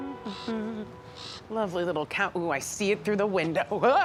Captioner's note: humming; crow squawking